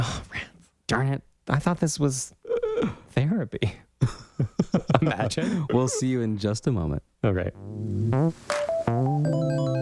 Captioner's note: laugh